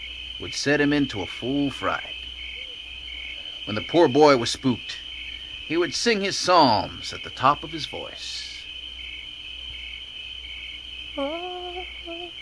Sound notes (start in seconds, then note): 2.2 insects chirping; 8.3 insects chirping; 11.1 singing weakly